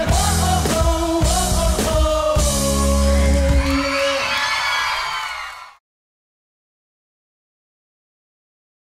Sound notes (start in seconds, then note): 3.2 song ends, applause and cheering